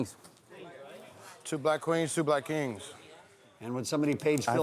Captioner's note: voiceover